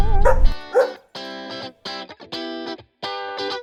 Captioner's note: dog barking